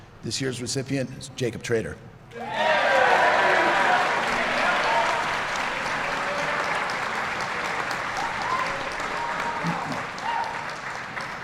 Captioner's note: applause